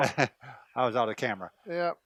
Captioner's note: laughing